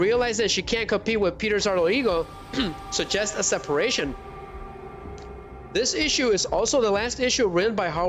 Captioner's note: clears throat